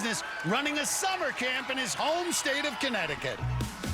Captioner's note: cheers and applause